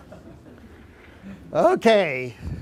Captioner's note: laughing